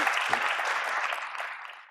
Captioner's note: audience applauds